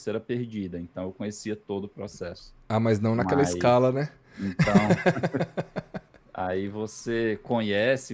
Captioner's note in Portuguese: risadas